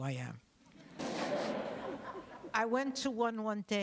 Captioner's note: laughter